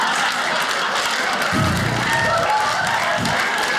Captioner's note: audience laughs; blows air; audience laughs